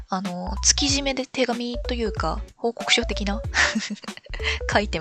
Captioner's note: laughs